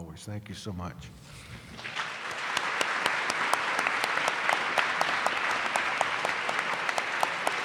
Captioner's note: applause